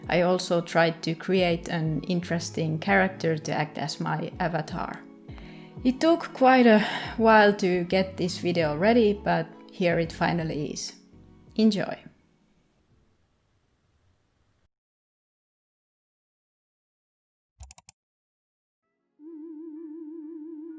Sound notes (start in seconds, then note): 17.6 double-klick; 19.1 alien sounds